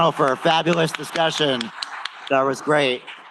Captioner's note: applause